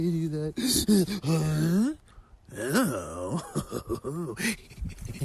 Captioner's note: grunting